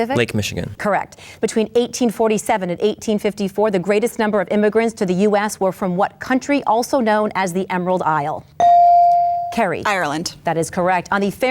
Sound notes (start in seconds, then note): 8.6 bell dings